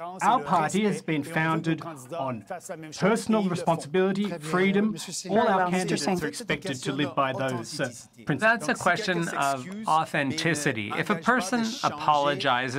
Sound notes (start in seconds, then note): 5.6 speaking French; 6.3 voice of translator; 7.7 speaking French; 9.1 voice of translator; 11.4 speaking French